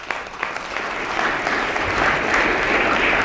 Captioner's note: applause